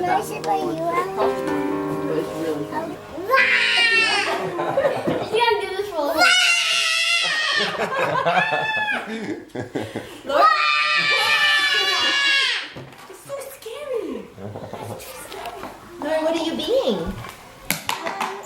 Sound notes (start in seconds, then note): 0.0 chattering; 3.5 girl roars; 9.4 laughing; 10.3 girl roars